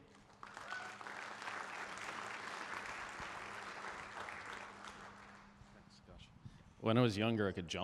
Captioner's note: applause